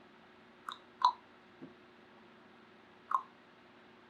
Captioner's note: clicks tongue